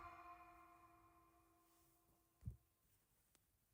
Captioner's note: cat sounds